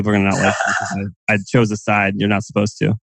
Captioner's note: laughs